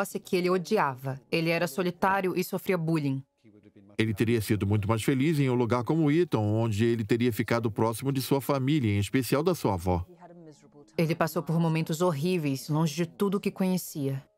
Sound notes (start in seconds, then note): 3.1 voiceover; 9.2 voiceover